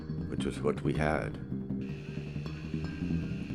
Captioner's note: boat engine puttering